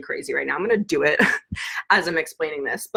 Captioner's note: laughs